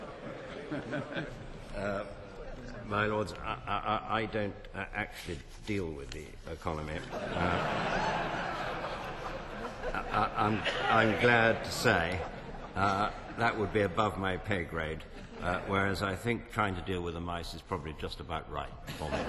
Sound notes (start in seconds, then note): 7.0 more laughs; 18.8 laughter